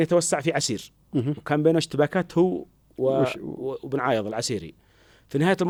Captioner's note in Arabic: تنحنُح